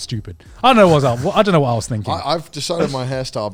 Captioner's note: laughing